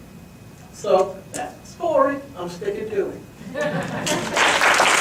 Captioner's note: audience applauds